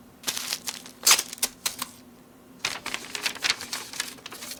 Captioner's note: paper tears